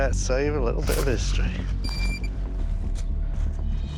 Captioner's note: high-pitched squealing